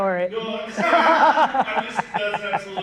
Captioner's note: laughing